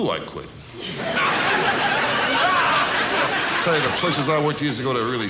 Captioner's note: audience laughs